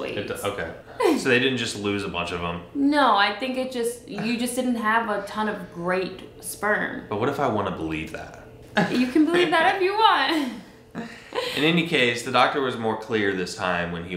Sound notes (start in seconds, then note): 1.0 chuckles; 4.1 chuckles; 8.7 laughs